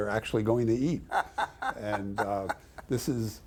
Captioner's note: laughing off screen